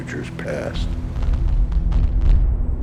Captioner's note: explosions